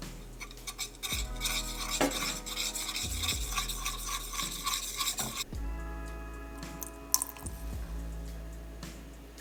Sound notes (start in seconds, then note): 0.0 sound of whisk scrapping pot; 7.1 sound of water being poured into pot